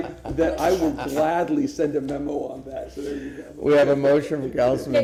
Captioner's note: laughter